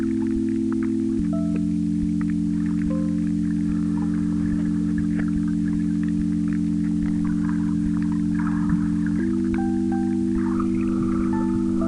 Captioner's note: wind blowing